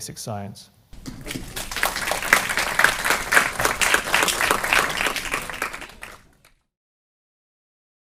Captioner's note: applause